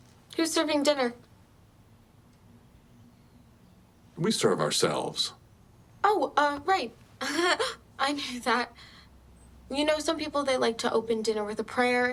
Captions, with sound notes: Who's serving dinner? We serve ourselves. [nervous laugh] Oh, right. I knew that. You know, some people, they like to open dinner with a prayer,